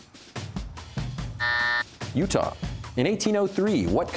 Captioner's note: buzzer